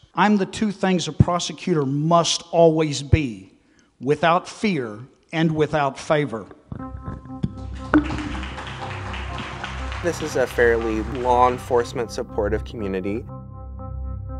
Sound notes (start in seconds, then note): 7.9 applause